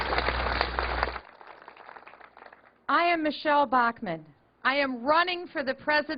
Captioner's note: applause